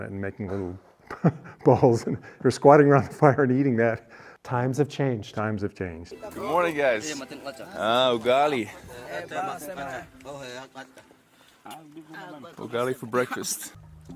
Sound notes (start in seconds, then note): 1.0 both chuckling; 6.2 people chattering in foreign language